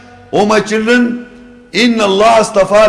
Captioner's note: Arabic